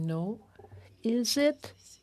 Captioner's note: speaking French